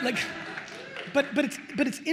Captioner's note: attendees laughing and applauding